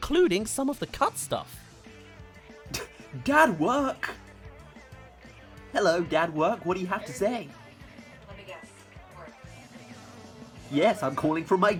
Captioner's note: laugh